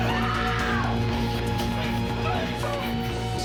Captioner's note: screaming